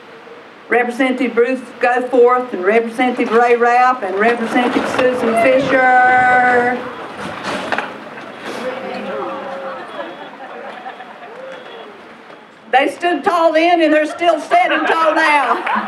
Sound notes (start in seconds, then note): 6.5 gusts of wind; 15.6 laughter